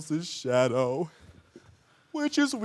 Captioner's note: heavy breathing